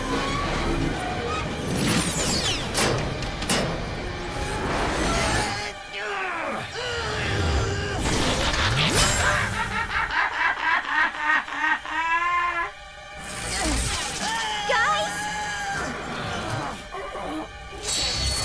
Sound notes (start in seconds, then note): 6.0 grunting; 9.5 laughing